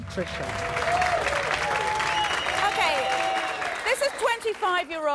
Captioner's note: clapping and cheering